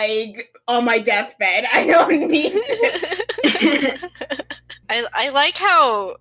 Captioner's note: laughter